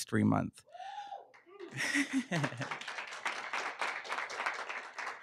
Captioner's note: cheering